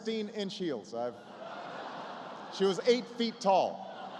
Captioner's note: laughter